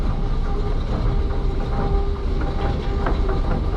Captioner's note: ambient department store escalator noises